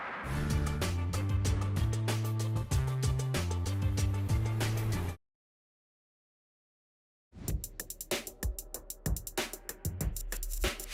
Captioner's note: explosions